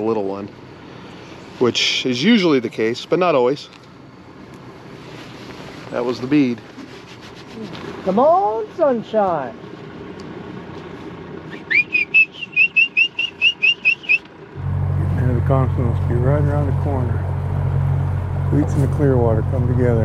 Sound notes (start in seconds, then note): 10.0 boat engine idling; 11.4 short whistles; 15.0 boat engine running